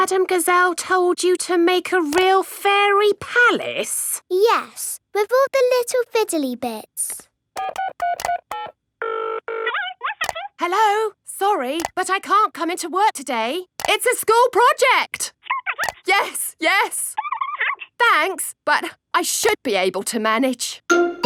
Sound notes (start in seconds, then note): 7.6 dials phone; 9.6 on phone